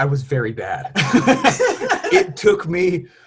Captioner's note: laughs